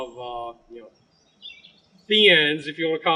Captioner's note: birds chipping